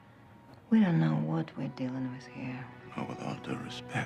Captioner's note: none